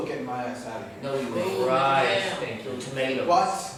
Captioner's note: inmate disapproval